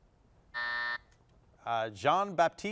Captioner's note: buzzer sounding